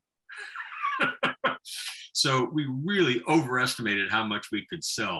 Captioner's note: laughing